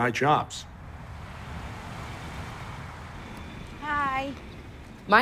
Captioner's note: engines rev